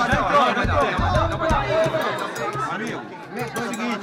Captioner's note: indistinct chatter